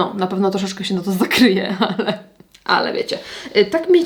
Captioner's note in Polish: śmiech